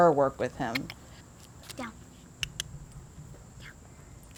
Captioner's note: mouth clicking